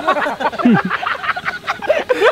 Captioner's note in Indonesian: suara drone